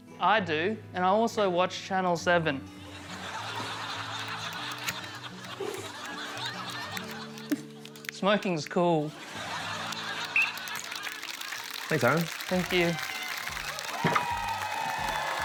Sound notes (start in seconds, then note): 2.8 laughter; 10.3 blows whistle; 13.3 cheering, applause